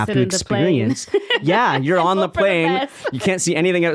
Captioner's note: laughing